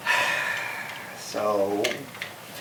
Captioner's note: sighs